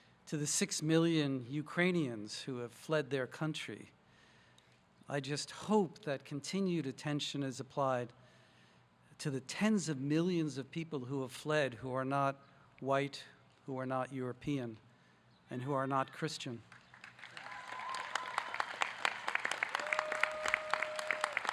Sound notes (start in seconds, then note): 17.2 audience cheering